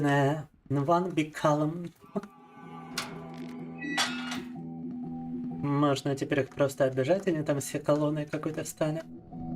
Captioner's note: speaking in Russian